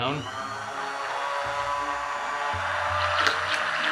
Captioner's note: blender whirring